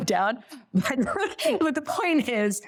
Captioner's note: laughs